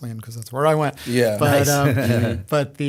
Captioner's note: chuckle